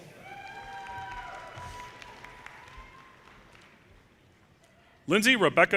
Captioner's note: audience cheers and applause